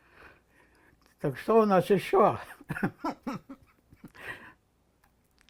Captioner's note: laughing